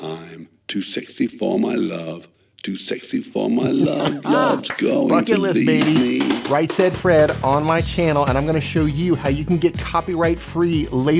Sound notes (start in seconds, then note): 3.3 laughs; 5.9 ding